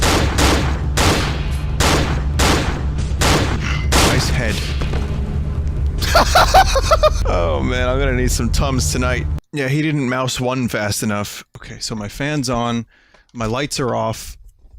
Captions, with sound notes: Nice head. (Laughs hysterically) Ohh, I'm gonna need some Tums tonight. Yeah, he didn't mouse-1 fast enough. Okay, so, my fan's on, my lights are off.